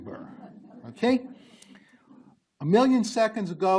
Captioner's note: group laughs